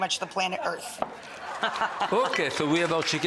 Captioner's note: audience laughs; audience applauds; laughs